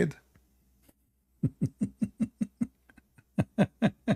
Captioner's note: Ketawa